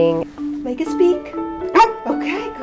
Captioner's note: Omega barks